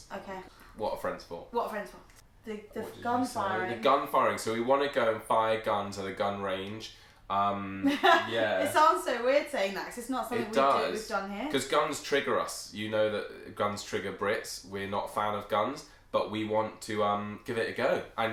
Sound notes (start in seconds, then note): 7.8 laughs